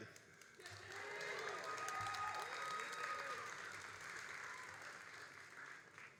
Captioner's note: all applauding and cheering